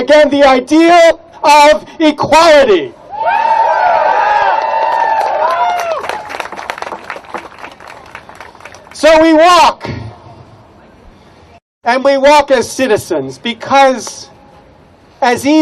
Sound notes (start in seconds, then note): 3.1 cheers, applause